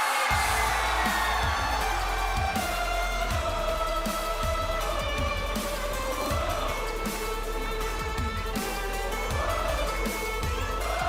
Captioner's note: cheers and applause